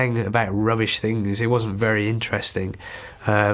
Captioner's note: sigh